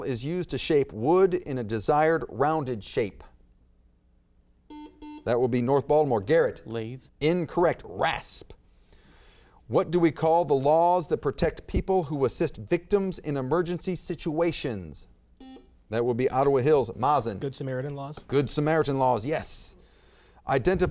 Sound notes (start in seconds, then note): 4.6 buzzer beeps; 15.4 buzzer beeps